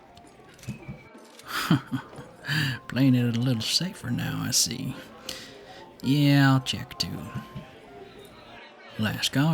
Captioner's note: chuckles